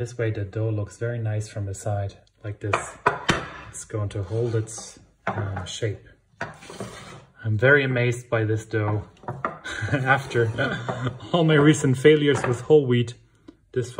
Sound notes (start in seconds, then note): 9.6 chuckles